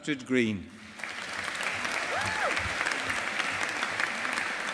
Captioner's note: audience applauding